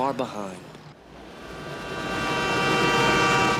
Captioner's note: train horn honks